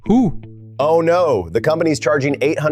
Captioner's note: sarcastically